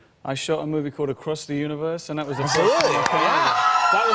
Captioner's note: cheers and applause